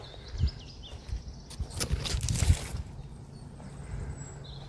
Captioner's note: branches crunch